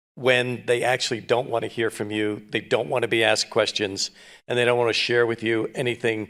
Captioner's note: none